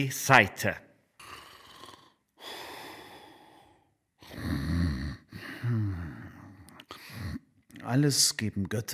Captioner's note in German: Atemgeräusche, leichtes Schnarchen